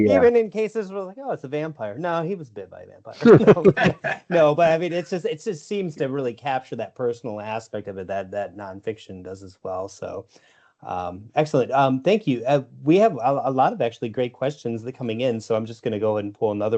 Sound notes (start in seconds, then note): 3.1 laughter